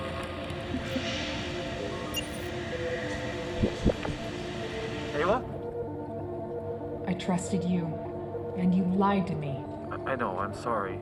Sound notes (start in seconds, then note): 0.1 incoming ringtone; 2.0 digital warble